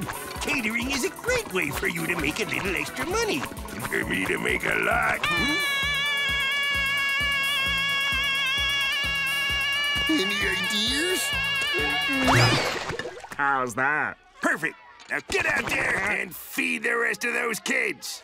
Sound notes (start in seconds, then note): 5.2 screaming